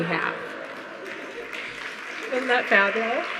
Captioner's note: audience laughing